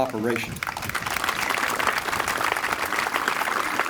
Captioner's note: applause